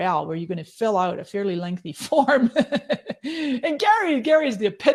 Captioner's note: laughing